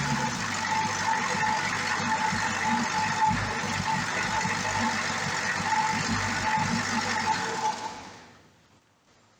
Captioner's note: engine idles & stops